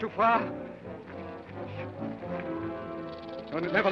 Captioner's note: snake rattles